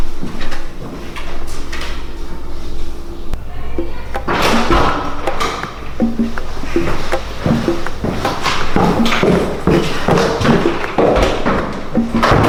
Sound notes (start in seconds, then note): 4.4 door opens